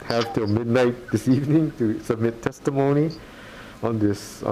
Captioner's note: chuckles